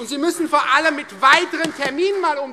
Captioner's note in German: Beifall Freie Demokraten